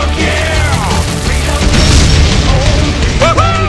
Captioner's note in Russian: взрыв турелей